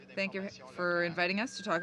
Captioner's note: speaking in french